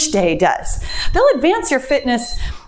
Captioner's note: timer beeps